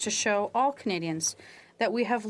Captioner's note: speaking French